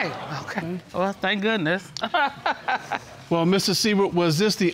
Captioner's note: chuckles